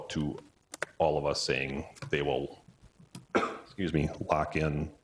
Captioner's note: cough